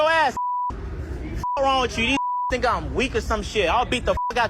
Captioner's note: beep; beep